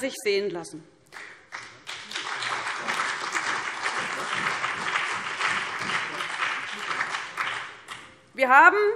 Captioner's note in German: Beifall BÜNDNIS 90/DIE GRÜNEN und vereinzelt CDU